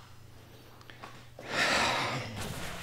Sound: sighs

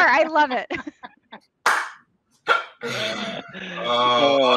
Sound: all laughing

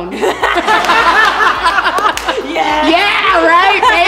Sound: laughter, applause

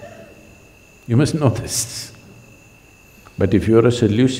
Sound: laughs

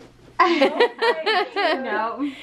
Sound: laughing

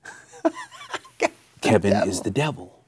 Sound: laughing

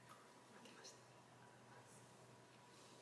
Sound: whispering

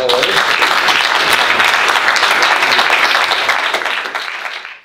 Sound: audience applauding

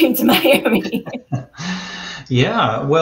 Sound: laughter

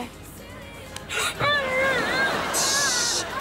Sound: groaning

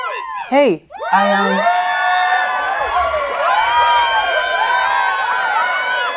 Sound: crowd cheering louder

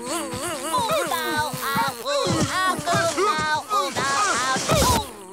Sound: buzzing; yelling

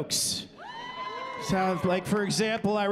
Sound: cheering

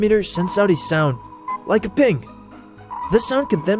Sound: pinging

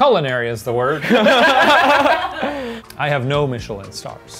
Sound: laughing

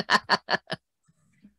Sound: chuckle

